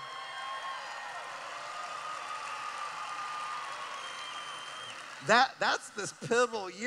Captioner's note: cheering